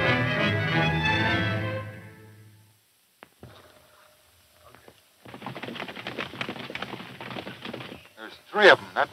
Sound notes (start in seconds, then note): 4.4 hooves clopping